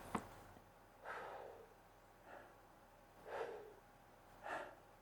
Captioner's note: inhales and exhales deeply